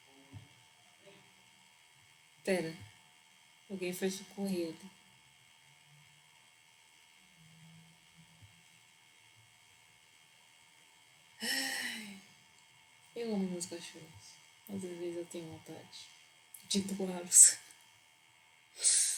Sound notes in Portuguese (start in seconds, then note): 11.4 Suspiro